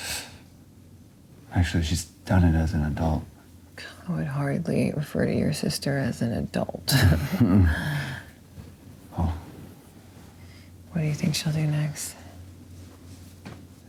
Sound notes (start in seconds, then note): 8.4 laughs